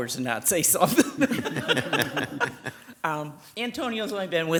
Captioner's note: people laughing